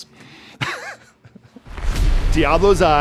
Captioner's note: both chuckle